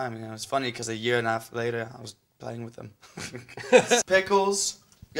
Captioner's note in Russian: смешок